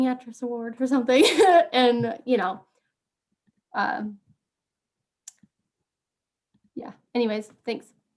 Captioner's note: laughs